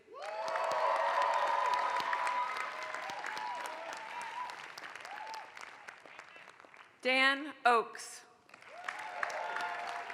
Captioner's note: applause